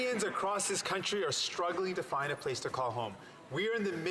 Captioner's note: some Applause